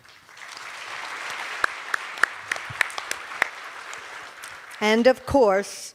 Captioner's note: cheers and applause